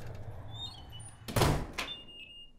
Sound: door slams; alarm beeps

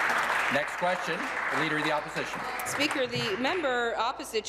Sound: applause

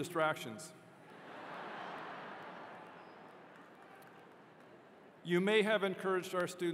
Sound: laughter

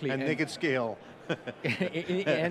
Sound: laughs

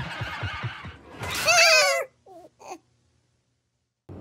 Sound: scream

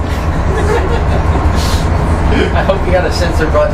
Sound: laughs

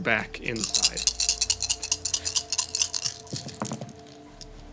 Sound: dice rattling

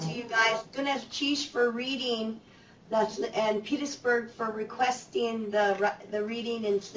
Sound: non-english

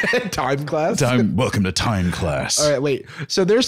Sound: deep voice

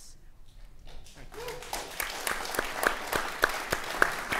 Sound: audience applauding

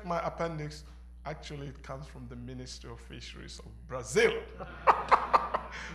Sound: laugther

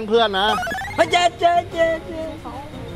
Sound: mocking

